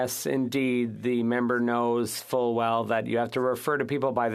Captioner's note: speaking French